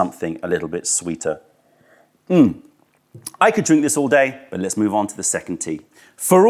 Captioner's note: sips tea